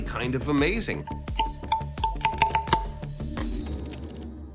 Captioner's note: pillars ringing